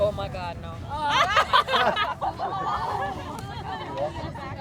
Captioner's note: women chuckle